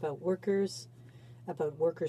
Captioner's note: speaking in french